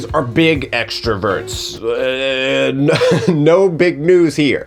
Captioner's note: stutters